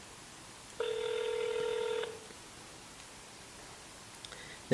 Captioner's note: phone ringing